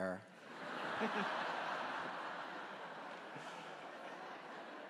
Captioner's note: audience laughing